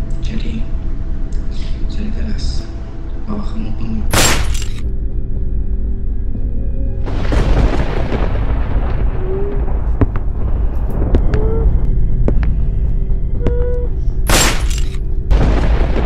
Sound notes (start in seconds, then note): 4.1 bang!!; 11.4 crying; 14.2 bang!!